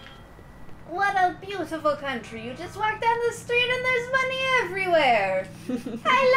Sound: foreign accent

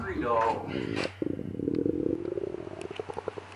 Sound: grumble grumble

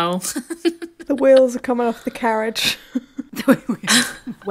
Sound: laughing

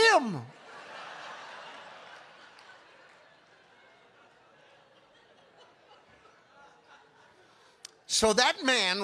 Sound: congregation laughing

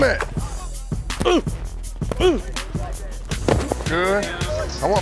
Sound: grunting

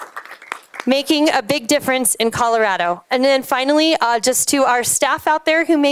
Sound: applause

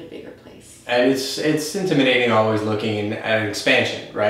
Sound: murmurs

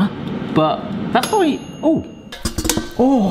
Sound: bell dings

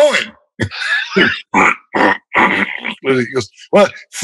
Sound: laughter

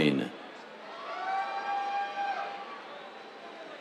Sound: cheers

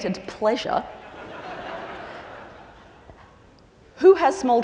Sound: laughter

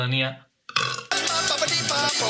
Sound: he burps

